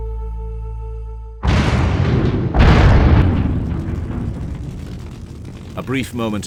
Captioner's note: explosion